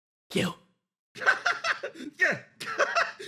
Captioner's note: laugh